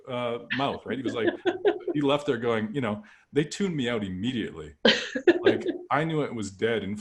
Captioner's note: laughter